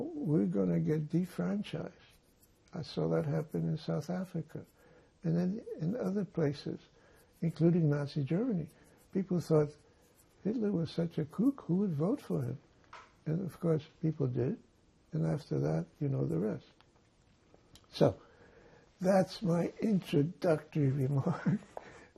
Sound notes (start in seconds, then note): none